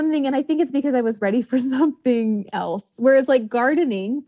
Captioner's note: laughs